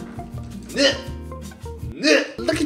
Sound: grunt

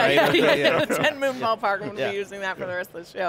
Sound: all laughing

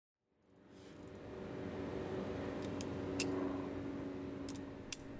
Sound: gun barrel clicks and whirls

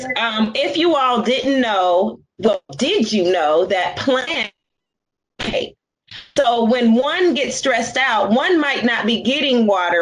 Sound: audio malfunction

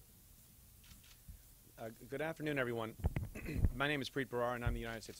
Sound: clears throat

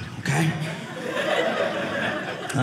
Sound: audience laughing

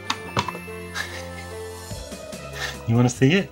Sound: laughing

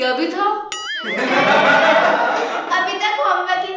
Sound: laughing

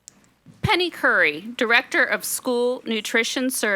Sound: none

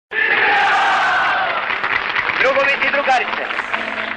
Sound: mass chanting

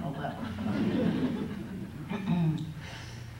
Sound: laughter

